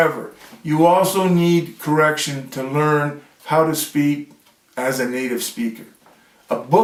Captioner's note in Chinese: 英语